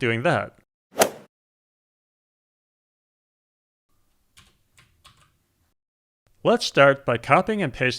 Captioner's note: golf swing sound effect